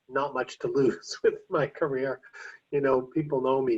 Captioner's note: chuckles